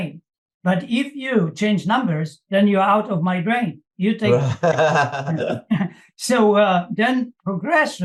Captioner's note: laughs